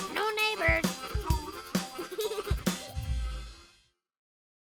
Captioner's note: laughter